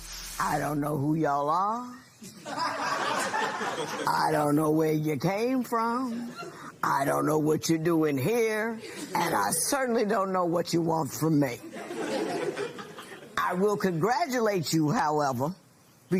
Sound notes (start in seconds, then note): 2.2 laughter; 11.6 laughter